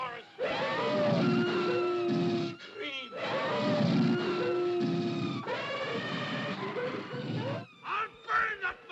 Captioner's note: cacophony of animal noises